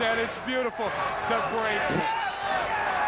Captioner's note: blows raspberry